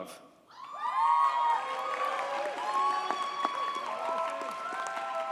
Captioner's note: audience cheers and applauds